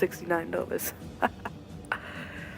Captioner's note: maniacal laughter